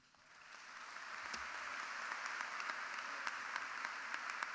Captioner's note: crowd applauding